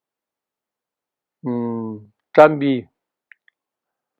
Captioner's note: tibetan